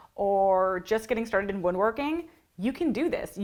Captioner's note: none